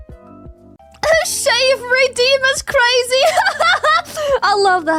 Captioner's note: laughs